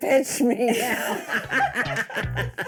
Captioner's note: laughing; upbeat music